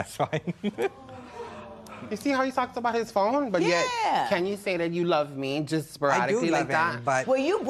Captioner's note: laughs